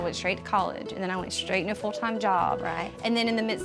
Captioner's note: none